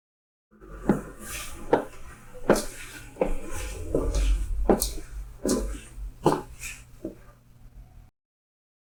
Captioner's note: footsteps